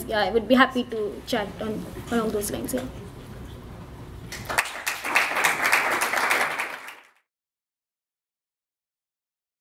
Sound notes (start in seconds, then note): 4.3 applause